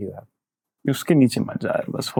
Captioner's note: speaking in Hindi